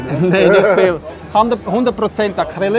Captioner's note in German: lacht